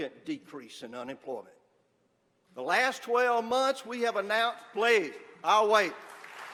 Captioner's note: applause